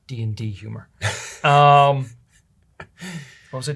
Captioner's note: chuckles